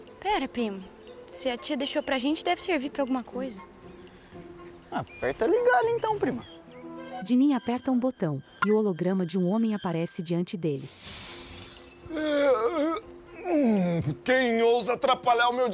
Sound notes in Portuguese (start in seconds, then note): 12.1 Homem bocejando